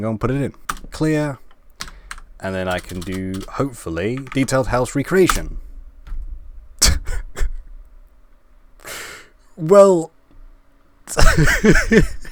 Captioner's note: laugh